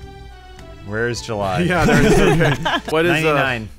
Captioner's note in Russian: смеется